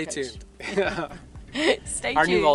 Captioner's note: laughs